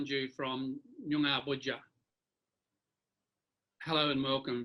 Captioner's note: speaks an indigenous language